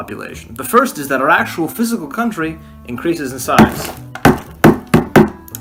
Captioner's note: hits spoon on jar